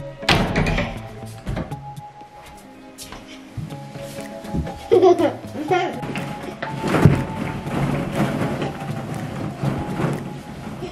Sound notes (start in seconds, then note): 0.0 door opening; 4.7 laughing